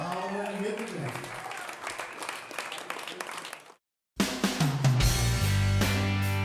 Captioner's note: applause